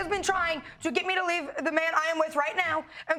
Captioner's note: stammers